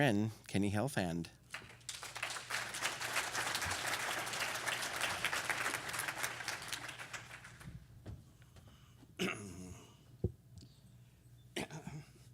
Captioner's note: applause